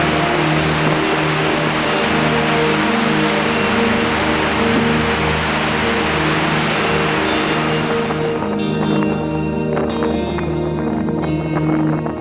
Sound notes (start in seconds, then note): 7.6 wind blowing